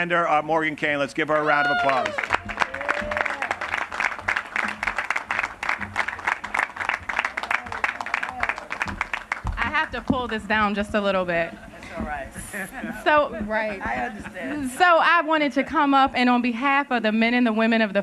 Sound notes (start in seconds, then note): 4.6 applause; 12.4 laughter